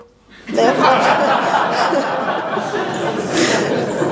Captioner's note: śmiech